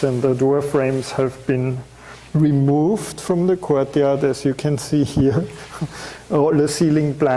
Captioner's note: chuckling